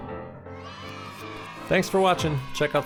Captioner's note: kids cheering